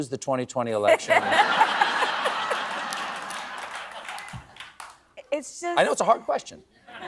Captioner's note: laughs